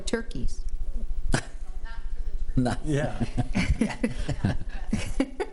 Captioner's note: trustees laughing